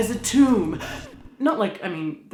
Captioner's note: record scratching